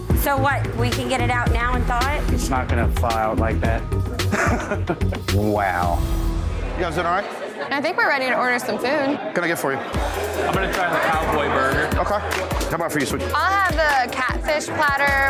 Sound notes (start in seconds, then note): 4.0 laughs